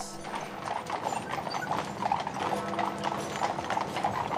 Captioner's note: sound of horse carriage